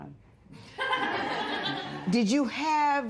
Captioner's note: laughter